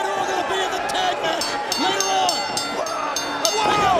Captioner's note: bell ringing